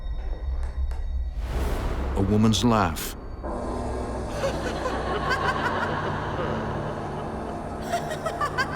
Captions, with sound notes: A woman's laugh. (woman laughs)